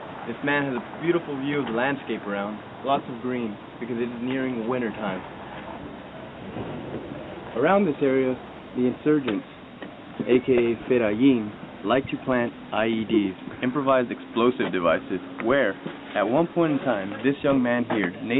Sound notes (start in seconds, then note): 10.5 speaking in foreign language